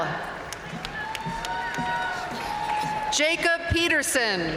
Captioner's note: audience cheering and applauding